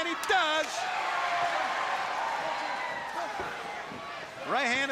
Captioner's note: crowd cheering